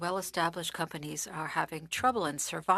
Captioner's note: speaking French